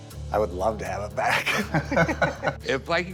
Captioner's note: laughter